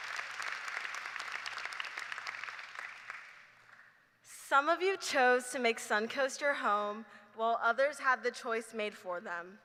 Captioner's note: applause